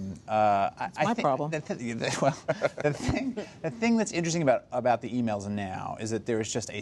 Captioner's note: laughs